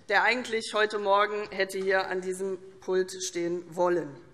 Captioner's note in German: none